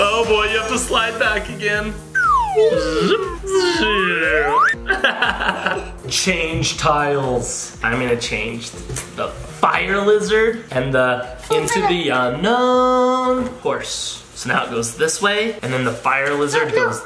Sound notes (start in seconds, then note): 4.9 laughing loudly